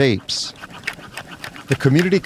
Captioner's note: sawing